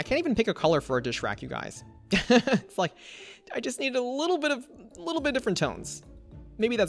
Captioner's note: laughs